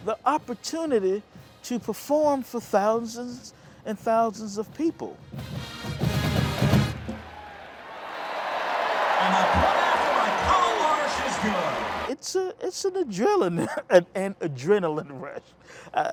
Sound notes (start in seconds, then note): 6.6 crowd cheering; 13.4 laughs